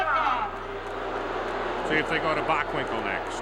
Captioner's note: crowd boos